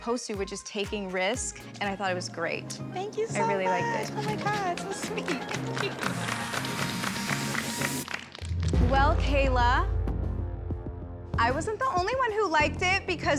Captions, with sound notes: -Thank you so much. -I really liked it. Oh, my God! That's so sweet! [applause] Well, Kayla... I wasn't the only one who liked it, because you are safe and in the top five.